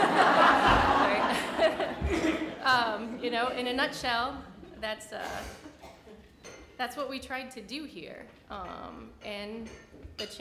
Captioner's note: audience laughter